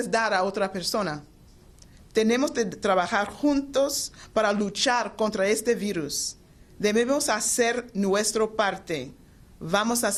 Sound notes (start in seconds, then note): 2.4 speaking foreign language